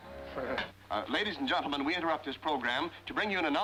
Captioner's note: man on radio